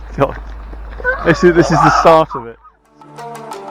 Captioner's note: dinosaur Noises